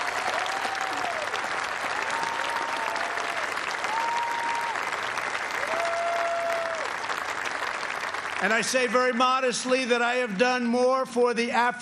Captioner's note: cheers and applause